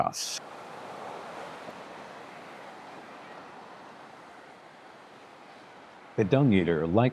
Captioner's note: waves crashing